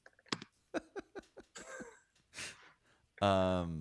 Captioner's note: chuckling